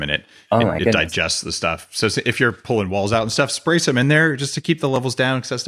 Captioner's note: none